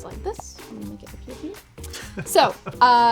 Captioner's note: laughs